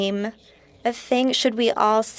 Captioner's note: speaking French